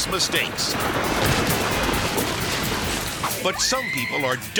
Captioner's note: silo thudding